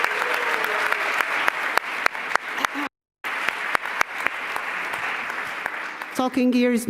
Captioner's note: applause